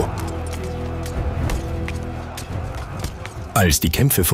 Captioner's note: warriors' shouting; horses' hooves thumping